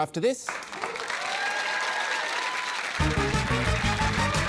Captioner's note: cheering, applause